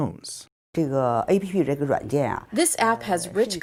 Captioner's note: speaking foreign language